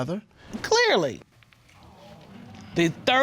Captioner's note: audience exclaiming